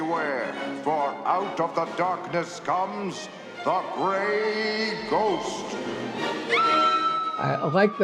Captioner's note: woman screams